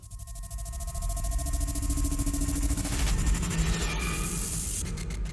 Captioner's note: electronic buzz